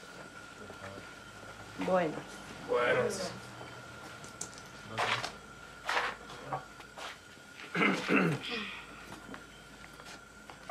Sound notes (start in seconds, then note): 7.7 man clears throat